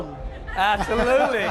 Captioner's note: laughter